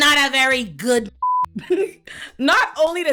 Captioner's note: beep